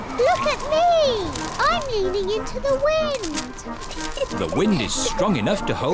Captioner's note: giggles